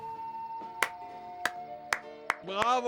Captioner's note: hans applauding